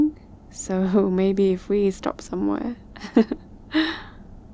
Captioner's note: laughs